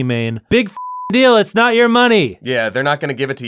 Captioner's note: beep